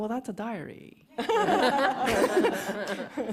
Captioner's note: laughter